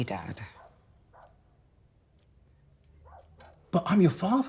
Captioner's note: dog barking